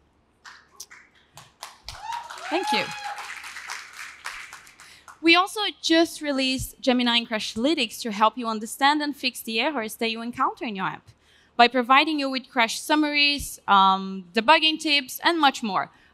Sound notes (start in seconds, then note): 0.4 applause; 1.8 cheering